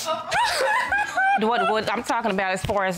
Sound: crying

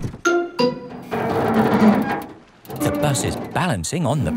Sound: creaking

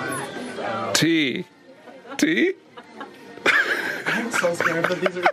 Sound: laughing

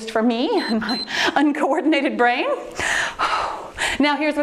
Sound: timer beeps

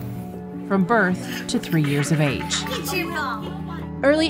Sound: kid laughing

